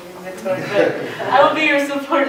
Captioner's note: laughter